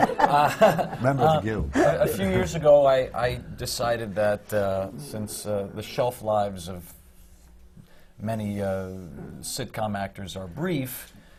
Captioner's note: laughs